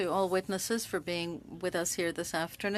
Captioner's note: speaking French